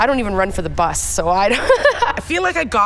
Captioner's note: laughing